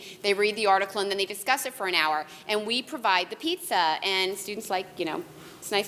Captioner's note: none